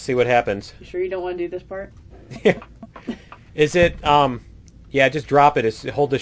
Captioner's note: laughs